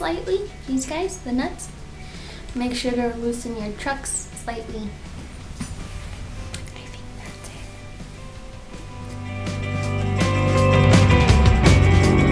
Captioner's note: kiss